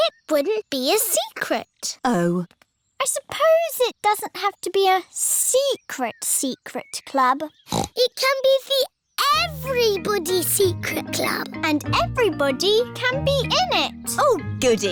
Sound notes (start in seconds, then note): 7.6 snorts